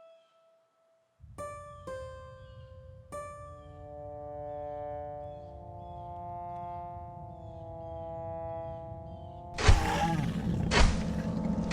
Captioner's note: growling